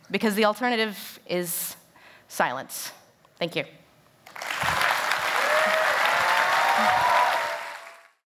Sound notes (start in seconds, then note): 4.2 applause